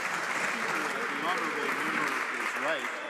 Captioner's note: some Applause